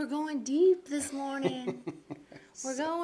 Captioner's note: laughs